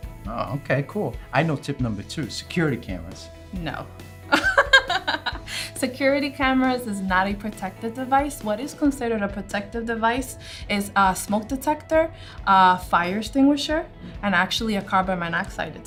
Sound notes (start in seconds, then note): 4.4 laughs